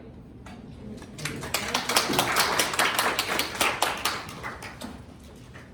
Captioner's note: applause